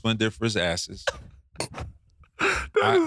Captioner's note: laughing